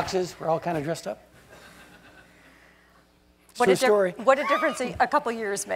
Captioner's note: laugh